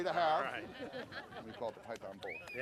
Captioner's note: laughing